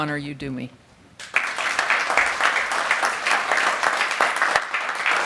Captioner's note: crowd applauding